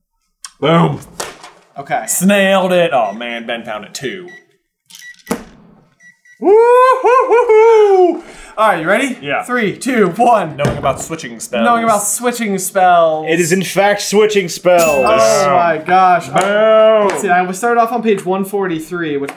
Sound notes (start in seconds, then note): 4.2 gentle beeping